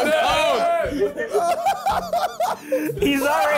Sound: laughing

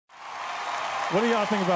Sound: applause

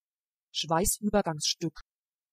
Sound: fast Pronunciation

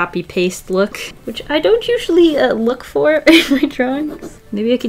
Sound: laughs

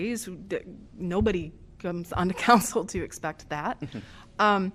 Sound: laughter

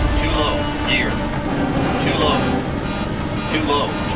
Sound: automated Voice

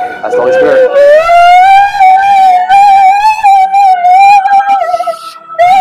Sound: woman crying and freaking out

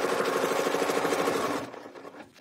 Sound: sewing machine whirring

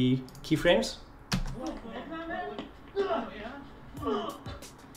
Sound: grunting and punching

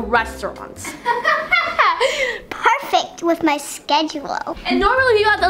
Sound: laughing

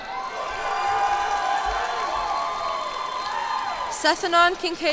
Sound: cheers and applause

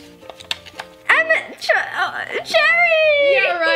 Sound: stutters

